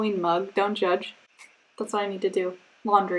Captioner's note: snaps fingers